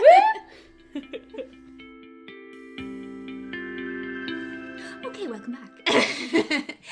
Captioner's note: laughter and whooping